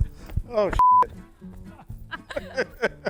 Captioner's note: beeps; people laugh